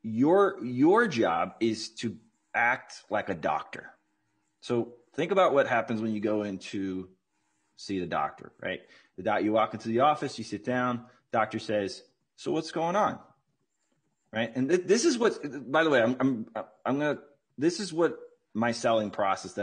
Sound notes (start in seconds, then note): none